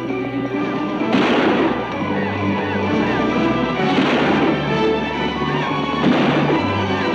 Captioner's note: exciting music; guns bang